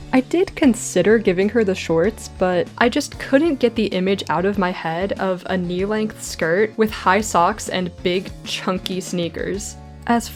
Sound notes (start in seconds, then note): none